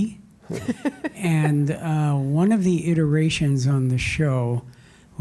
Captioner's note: laugh